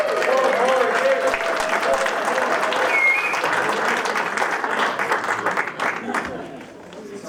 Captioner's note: applause and Cheering